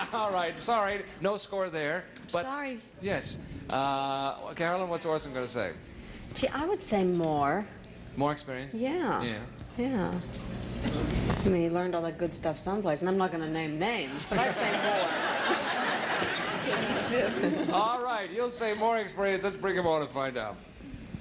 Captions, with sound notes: Alright, sorry, no score there. -Sorry. -Yes, Carolyn, what's Orson going to say? -I would say more. -More experience? -Yeah, yeah. I mean, he learned all that good stuff some place, and I'm not going to name names, but let's say more. (laughing) -Alright, he'll say more experienced, let's bring him on and find out.